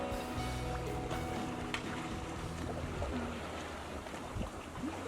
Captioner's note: waves whooshing